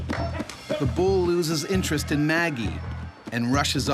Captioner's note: voiceover